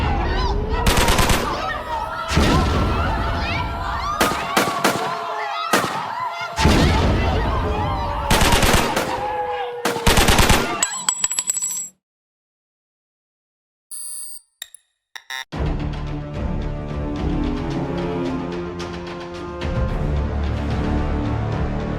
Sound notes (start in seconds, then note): 0.1 more shots being fired; 4.2 sirens; 6.6 loud explosion; 8.3 gun shots continue; 10.8 bullet shells dropping; 14.0 computer static; 15.6 ominous music